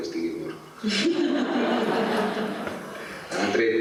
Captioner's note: laughter